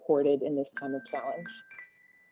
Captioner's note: chime